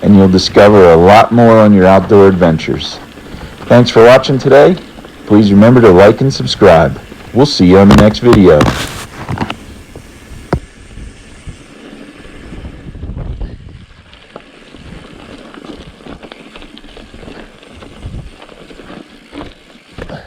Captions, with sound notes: and you'll discover a lot more on your outdoor adventures. Thanks for watching today. Please remember to like and subscribe. We'll see you on the next video. (wind whooshing) (man panting)